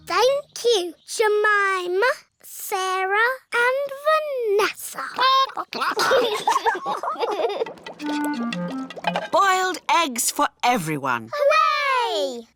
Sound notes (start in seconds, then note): 5.1 children giggle; 5.3 chickens chatter